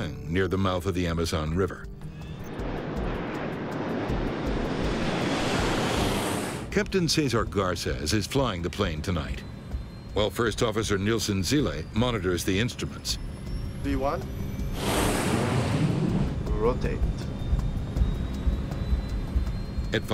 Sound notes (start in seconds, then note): 3.4 plane engine whirring; 3.4 tense music; 14.7 tense music; 17.8 tense music